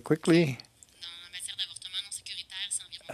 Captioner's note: speaking French